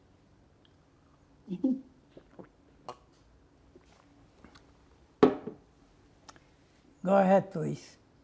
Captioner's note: drinking